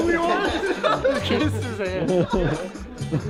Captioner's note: all laughing